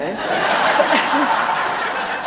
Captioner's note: laughter